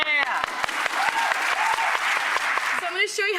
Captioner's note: audience clapping